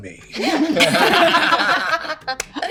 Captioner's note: laughing